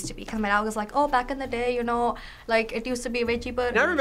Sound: Indian accent

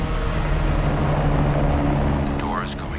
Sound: helicopter whirring

